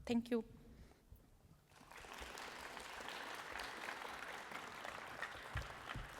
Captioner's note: applause